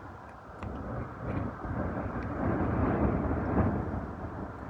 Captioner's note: wind howling